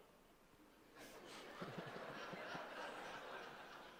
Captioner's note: audience laughter